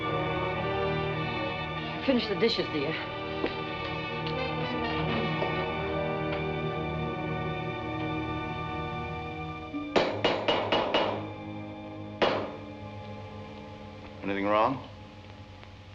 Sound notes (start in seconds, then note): 9.5 hammer thudding